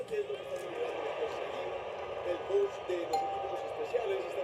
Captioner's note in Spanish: Voz en la TV; Timbre de la puerta